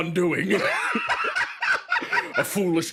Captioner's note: laughs